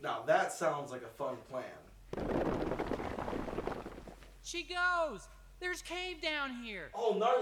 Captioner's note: rocks Crashing